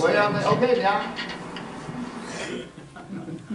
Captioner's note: Speaking Hoisan-wa